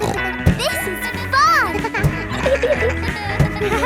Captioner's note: barks; snorts